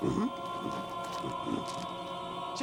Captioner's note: grunting